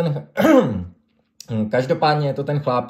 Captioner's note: coughs